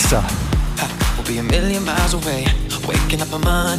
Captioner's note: breathing heavily